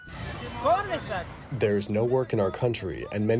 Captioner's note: through translator